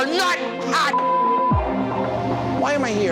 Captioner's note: beep